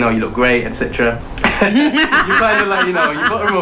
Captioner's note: laughter